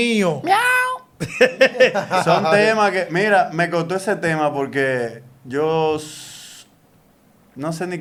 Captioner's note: laughs